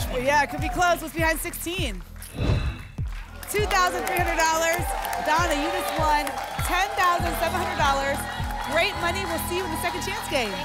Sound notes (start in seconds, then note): 2.3 whoosh; 7.2 applause and cheering